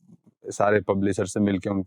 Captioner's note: speaking in Hindi